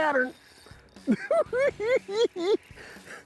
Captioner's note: laughing